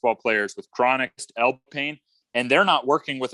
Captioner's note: audio warbles